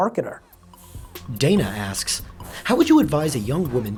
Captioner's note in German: Voice-over